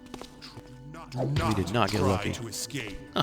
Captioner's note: laughs